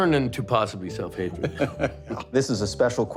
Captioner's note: laughter